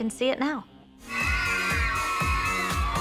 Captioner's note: cheering